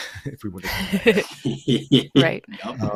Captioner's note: laughter